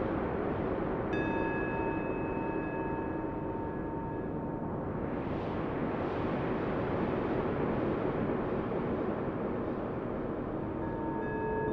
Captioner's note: wind chimes sound as wind rumbles higher and higher